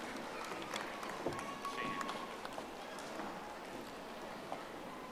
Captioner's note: audience applauding